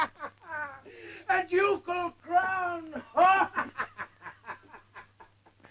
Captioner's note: laughs